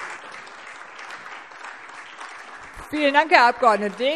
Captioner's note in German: Beifall SPD